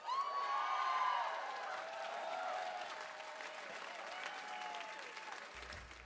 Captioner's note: cheers and applause